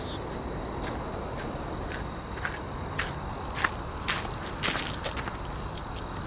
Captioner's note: footsteps get louder as she gets closer